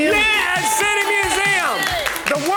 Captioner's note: crowd cheers and claps